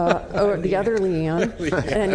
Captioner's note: laughter